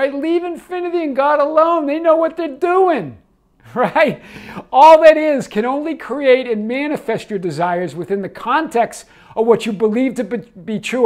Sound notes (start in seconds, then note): 3.6 laughing